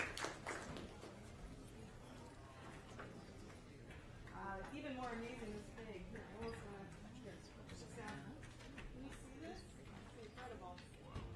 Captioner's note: applause